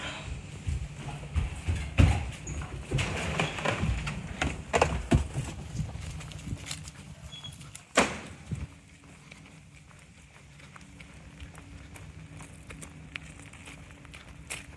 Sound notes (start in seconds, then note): 0.1 footsteps thumping; 7.9 door banging; 8.0 footsteps rustling